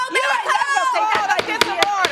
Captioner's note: gavel banging